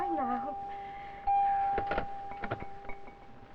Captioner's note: door bell